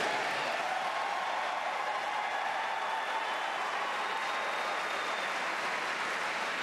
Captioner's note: applause